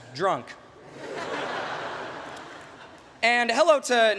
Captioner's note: laughter